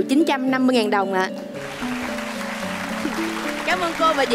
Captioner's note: applause